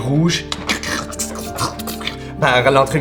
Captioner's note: vocalizes a small lightning bolt